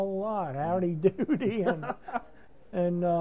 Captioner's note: laughter